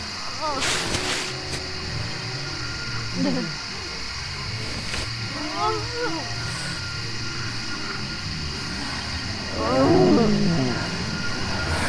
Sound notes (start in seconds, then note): 0.2 intense moaning; 2.9 distorted moaning; 5.0 distorted wailing; 9.5 distorted wailing